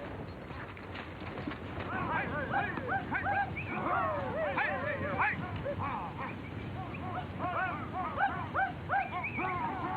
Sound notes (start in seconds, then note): 0.0 reins jingling; 2.7 men whistling; 2.7 men yelling